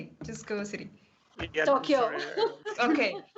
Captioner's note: laughs